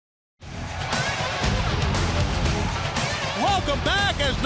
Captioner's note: crowd cheering